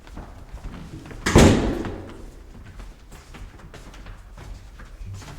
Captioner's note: door thumps